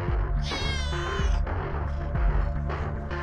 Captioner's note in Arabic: صراخ القط